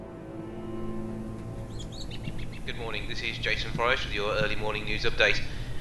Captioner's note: radio